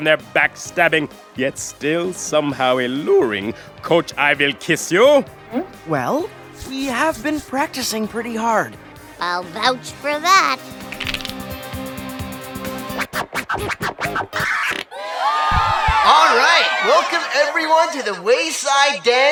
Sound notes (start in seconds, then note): 10.8 cracks knuckles; 13.1 scratches records; 14.8 cheers